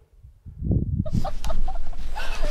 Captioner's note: laughing